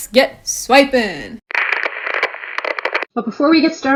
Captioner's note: static sounds